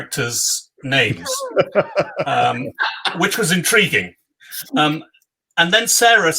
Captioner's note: laugh